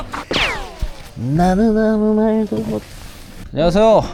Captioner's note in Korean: 흥얼거림